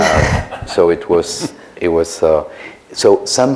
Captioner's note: laughter